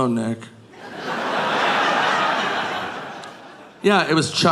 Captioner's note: audience laughing